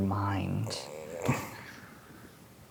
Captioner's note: groans